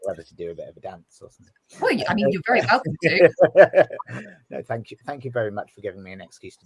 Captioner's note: laughs